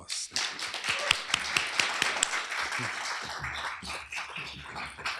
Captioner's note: applause